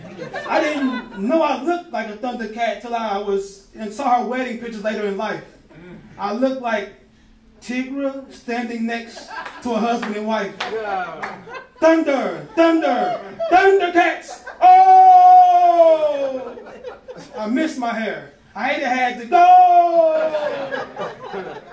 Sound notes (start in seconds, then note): 0.0 crowd laughing; 14.5 laughing; 14.5 shouting; 20.0 crowd laughing